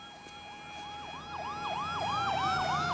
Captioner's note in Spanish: sirenas sonando